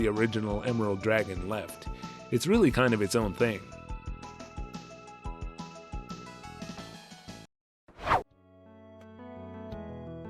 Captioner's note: whoosh